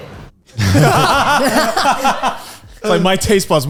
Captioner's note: all laughing